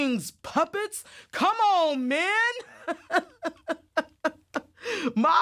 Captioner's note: laughs